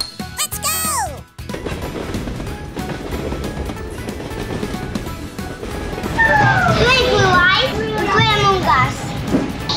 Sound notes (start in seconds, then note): 1.5 train sounds and music